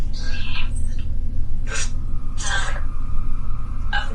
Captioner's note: EVP warbles